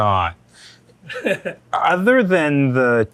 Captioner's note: laughing